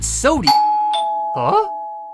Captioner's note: doorbell ring